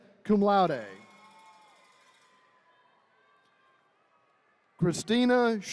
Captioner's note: attendees cheering